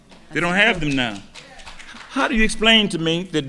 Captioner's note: audience clapping